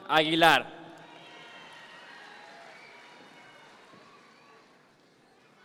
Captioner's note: audience members cheer